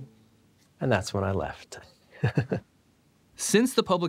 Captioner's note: laughs